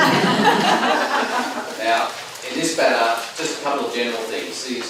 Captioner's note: laughing